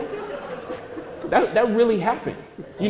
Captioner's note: audience laughter